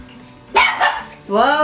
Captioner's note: bark Bark!